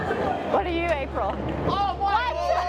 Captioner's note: team cheering